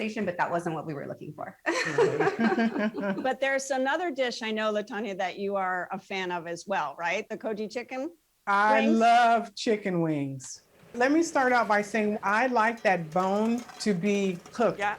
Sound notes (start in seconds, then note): 1.6 laughter